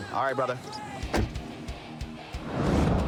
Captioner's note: door shuts